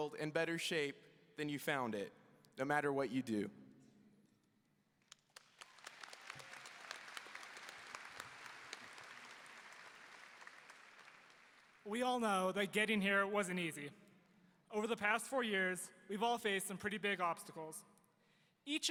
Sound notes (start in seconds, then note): 5.1 audience applauding